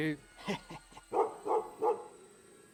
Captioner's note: laughing